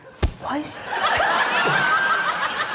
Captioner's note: thump!; laughter